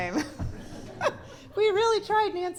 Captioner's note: laughter